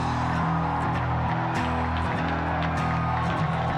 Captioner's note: cheering